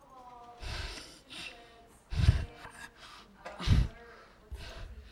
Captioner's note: bursts of air into microphone